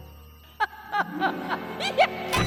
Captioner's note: evil chuckles